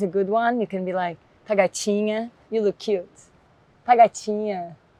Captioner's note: speaks Portuguese